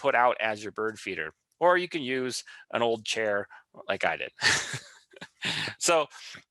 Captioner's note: laughs